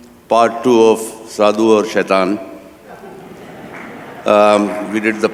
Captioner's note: laughter